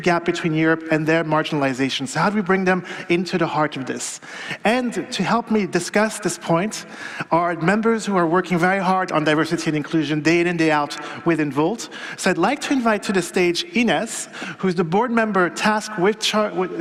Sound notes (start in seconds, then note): none